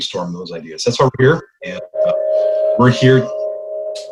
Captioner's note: doorbell rings